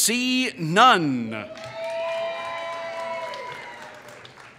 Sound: applause

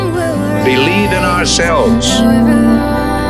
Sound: phone vibrates

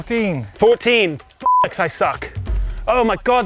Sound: beep

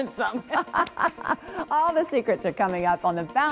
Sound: laughs

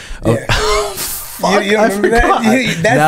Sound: laughs

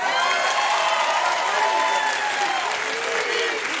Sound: crowd applause

